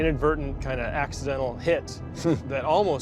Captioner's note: chuckles